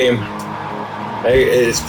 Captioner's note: crowd Noises